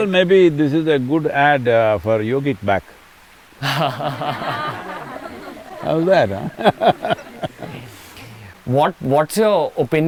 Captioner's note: laughter; laughs